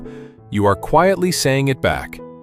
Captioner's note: thoughtful